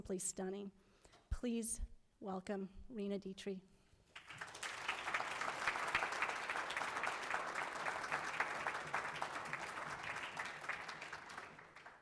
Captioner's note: applause